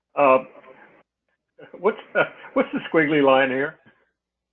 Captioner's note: laugh